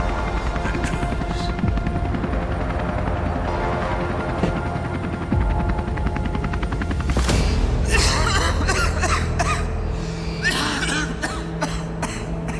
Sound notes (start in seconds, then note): 3.1 suspenseful orchestral music; 8.0 Jed coughing